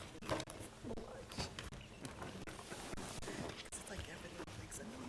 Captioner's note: board chatting quietly